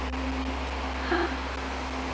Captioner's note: gasps